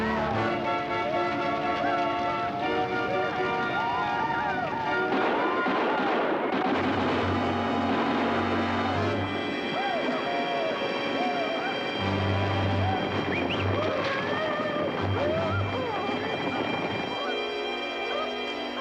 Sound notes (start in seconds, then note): 4.6 hooting and hollering; 4.8 gunfire